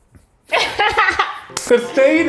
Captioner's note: laughs